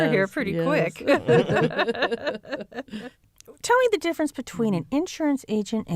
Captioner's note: laughter